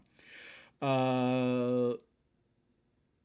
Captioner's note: deepbreath